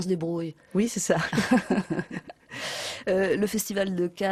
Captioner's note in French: rires